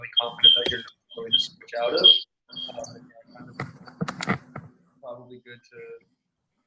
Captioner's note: murmurs